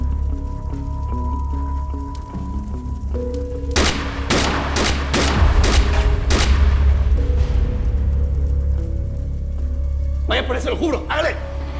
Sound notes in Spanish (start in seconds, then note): 3.7 Disparos